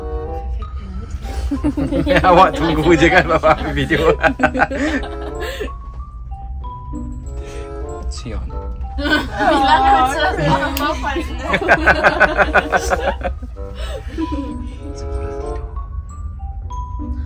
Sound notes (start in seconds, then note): 1.6 laugh; 10.5 speaking German; 13.8 laugh